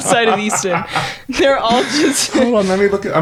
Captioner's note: laughing